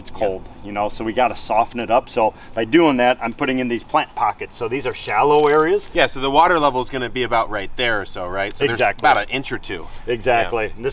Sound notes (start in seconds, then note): none